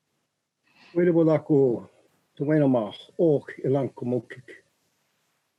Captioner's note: speaking in Native language